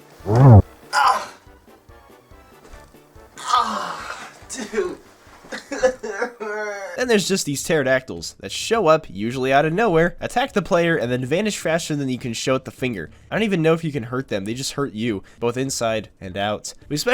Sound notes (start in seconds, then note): 0.0 noises of pain; 5.5 sobs